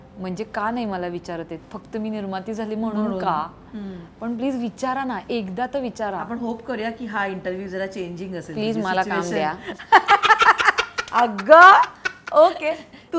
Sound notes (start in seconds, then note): 9.8 Laughs